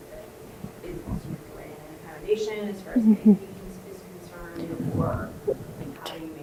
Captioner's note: speaks off microphone